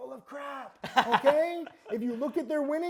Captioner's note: laughing